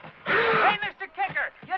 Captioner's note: screaming